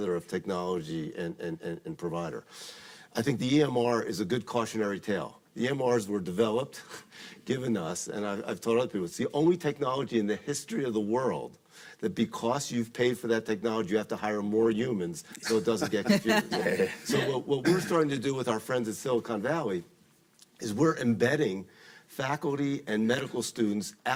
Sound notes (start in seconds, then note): 15.4 panelists laughing